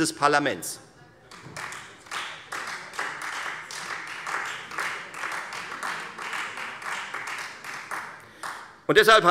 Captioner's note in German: Beifall Freie Demokraten